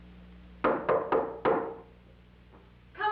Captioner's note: knock on door